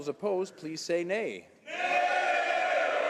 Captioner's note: shouting yeas